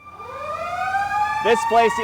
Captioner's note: siren